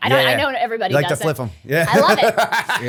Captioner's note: laughter